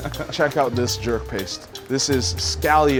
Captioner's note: laughs